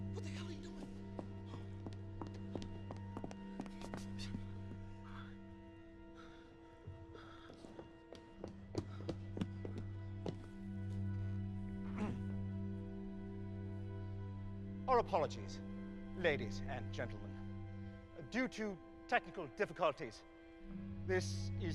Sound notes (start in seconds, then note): 7.1 panting; 7.4 footsteps; 11.9 clears throat